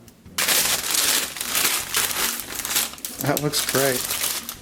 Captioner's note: parchment crinkling